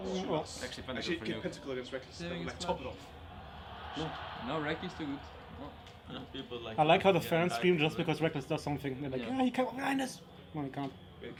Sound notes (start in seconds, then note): 4.4 team murmuring; 9.3 mocking